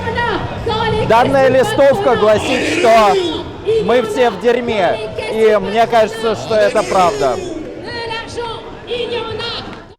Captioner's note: protesters shouting